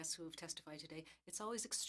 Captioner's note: speaking French